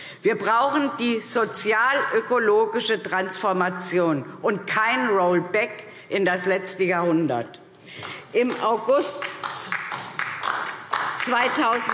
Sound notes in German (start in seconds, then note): 9.2 Beifall DIE LINKE